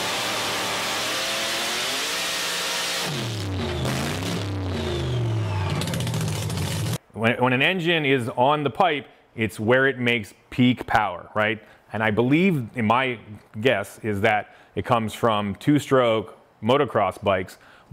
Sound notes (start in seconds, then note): 0.0 engine roaring; 5.0 engine sputtering